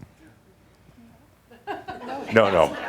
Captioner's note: some chuckles